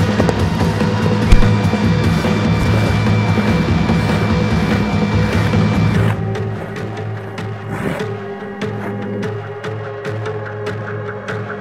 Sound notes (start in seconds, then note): 3.2 Geno pants